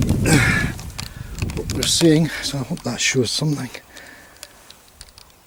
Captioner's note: groans